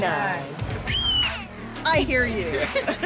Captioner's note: baby Screams